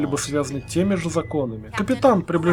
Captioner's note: intercom whistles